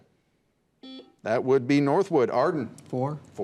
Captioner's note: buzzer beeps